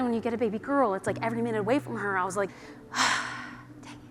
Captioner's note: sighs